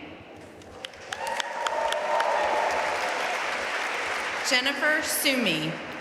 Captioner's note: audience cheering and applauding